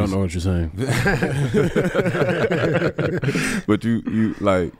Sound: group laughs

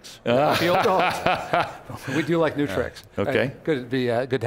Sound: laughs

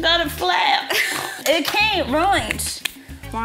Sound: laughs

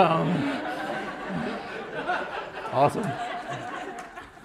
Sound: laughter

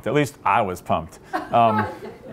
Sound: laughter

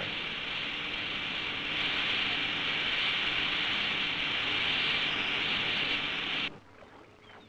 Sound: sound of wheat through machinery

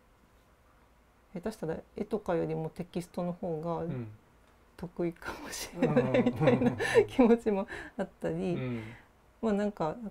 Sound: laugh

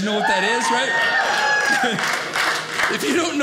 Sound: audience cheers

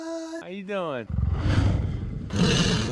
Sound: grunts

